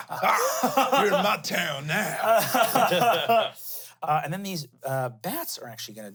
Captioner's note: laughs